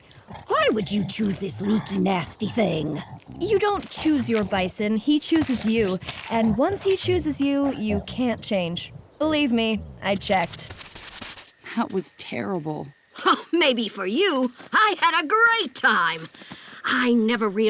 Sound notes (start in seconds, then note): 12.8 scoffs